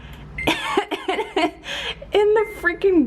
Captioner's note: laughs in delight